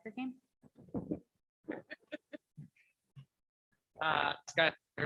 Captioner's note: person laughing